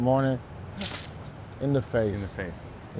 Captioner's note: imitates drink squishing